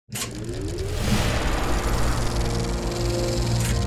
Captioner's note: film reel spooling up